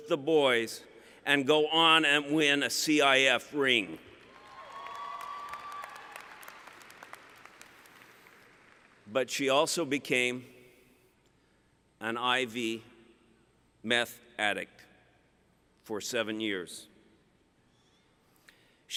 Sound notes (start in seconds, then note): 4.2 cheering